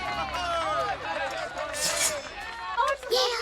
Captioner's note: crowd cheering